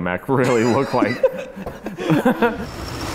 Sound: laughing

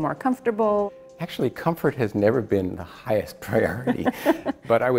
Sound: laughs

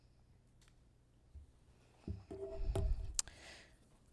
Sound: clicking

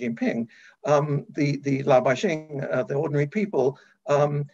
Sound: speaking in foreign language

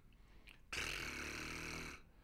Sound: trilling

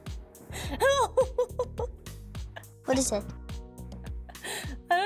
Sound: laughs

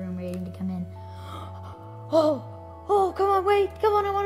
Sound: gasping

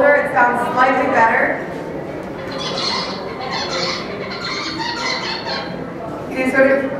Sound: bird song

